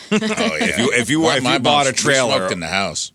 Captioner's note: laughing